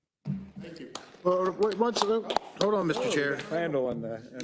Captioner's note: people applauding